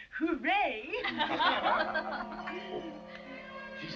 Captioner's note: laughs